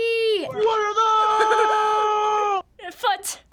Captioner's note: giggling